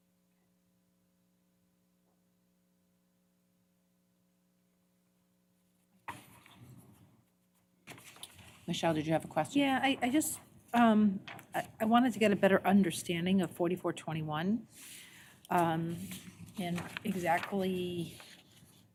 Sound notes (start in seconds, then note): none